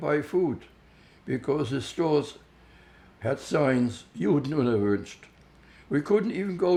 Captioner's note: german